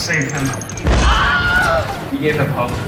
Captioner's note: Wilhelm scream